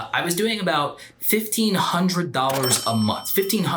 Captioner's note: cash register dings